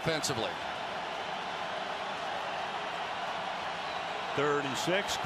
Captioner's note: cheers